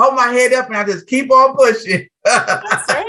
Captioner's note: laughs